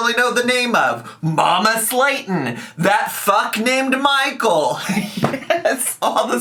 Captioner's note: laughing